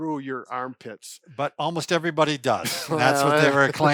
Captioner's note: laughs